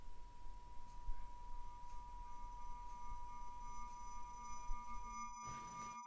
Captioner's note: high-pitched tone ringing